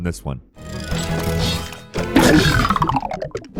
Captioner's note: trap clanking; bones clattering